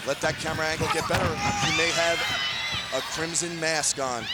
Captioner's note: bodies thudding